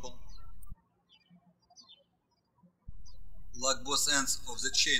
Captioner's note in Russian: птички щебечут